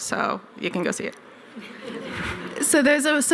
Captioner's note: laughter